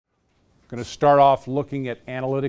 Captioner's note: voiceover